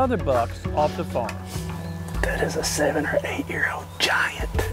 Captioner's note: whispering